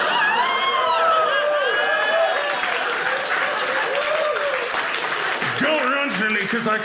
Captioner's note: audience cheering